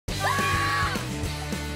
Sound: screaming

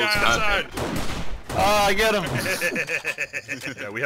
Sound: laughs

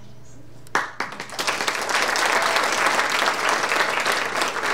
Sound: audience applauding

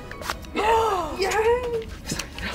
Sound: gasp

